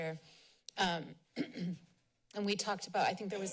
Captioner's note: clears throat